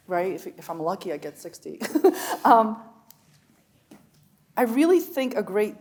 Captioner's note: chuckles